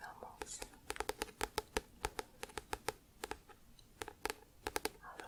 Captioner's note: tapping on book